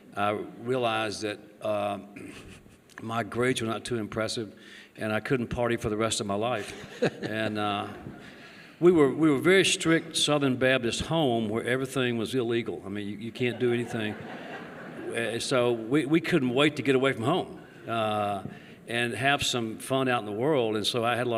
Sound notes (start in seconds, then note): 13.4 laughter